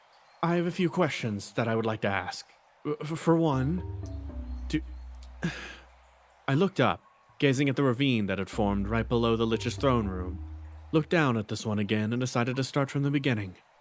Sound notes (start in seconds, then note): 5.4 sigh